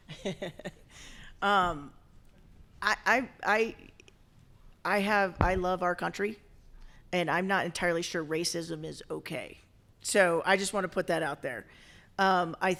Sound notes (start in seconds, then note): 0.0 chuckles